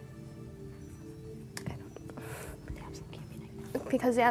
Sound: whispering

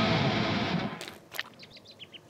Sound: poop splatters and bird chirps

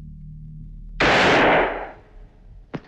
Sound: gunshot

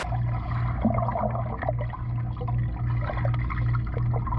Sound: water splashes; pool gurgles

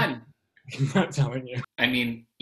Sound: laughs

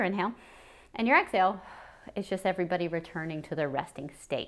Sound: exhales

